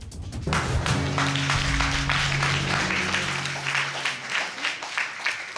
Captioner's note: applause